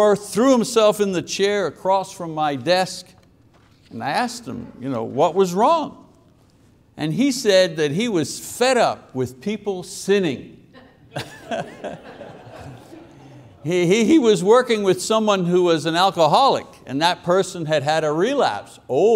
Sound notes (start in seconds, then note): 10.7 congregation laughing; 10.8 laughing